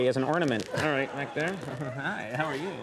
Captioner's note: audience laughs